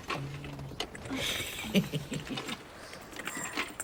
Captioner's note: laughs